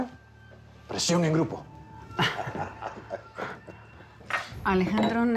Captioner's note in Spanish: Risas